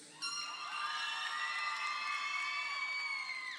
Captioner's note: crowd cheering